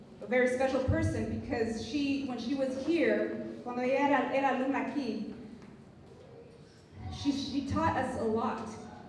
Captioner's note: non-english speech